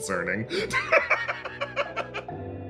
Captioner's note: laugh